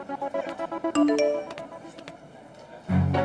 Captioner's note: Message tone